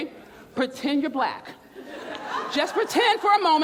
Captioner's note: audience laughs